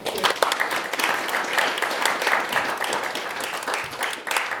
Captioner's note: audience applauding